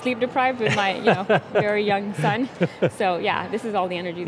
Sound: laughs

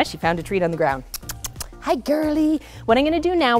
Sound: kissing sounds

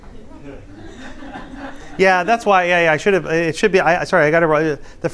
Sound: laughter

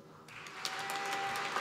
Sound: applause

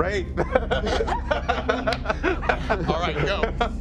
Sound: laughing

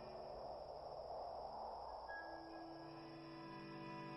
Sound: wind blows

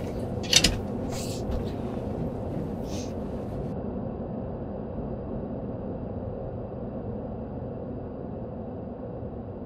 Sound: creepy laughing; haunting sound

